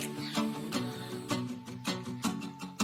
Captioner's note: laughs